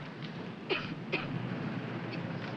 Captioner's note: coughs